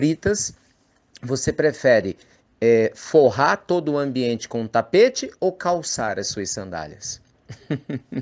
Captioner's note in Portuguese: Risos